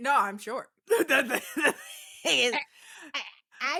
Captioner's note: laughs